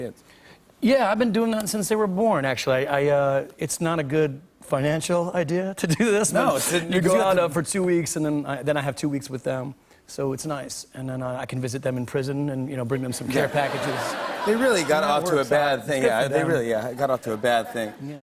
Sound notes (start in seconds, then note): 13.2 laughter